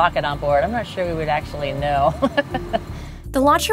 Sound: laughs

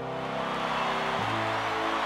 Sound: cheering

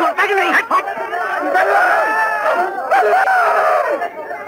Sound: muffled shouts and exclamations continue

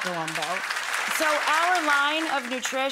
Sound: audience applause

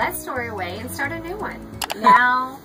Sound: beeping

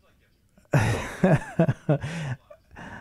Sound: chuckles

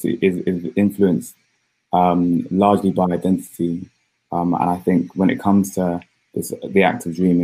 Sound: erm

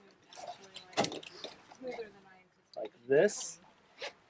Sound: buckle thuds

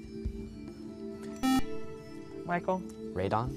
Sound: buzzer

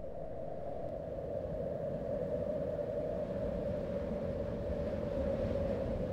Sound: wind breezing heavily

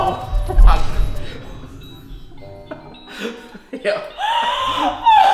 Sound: both laughing

